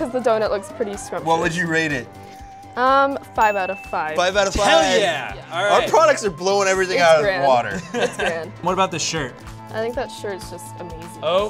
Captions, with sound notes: 'Cause the doughnut looks pretty scrumptious. What would you rate it? Um, five out of five. - Five out of five. - Hell yeah! Our products are blowing everything out of the water. - It's good. - (laughs) What about this shirt? I think that shirt is just amazing.